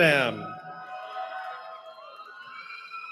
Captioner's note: cheering